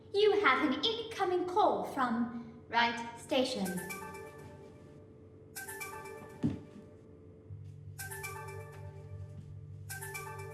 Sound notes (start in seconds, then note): 5.5 cheerful ringtone; 7.9 ringtone continues